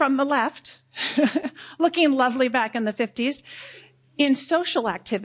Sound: laughs

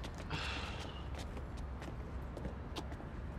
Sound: sighs

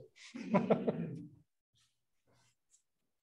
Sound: laughs

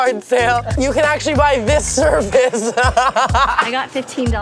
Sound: laughs

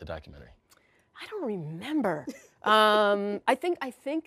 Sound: laughs

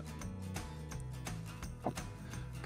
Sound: swallows hard

